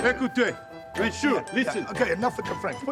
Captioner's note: speaking in foreign language